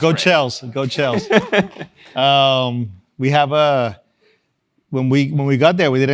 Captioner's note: laugh